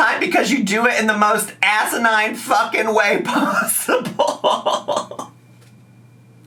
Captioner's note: laughs